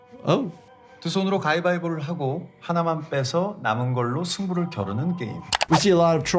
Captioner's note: recruiter speaking in Korean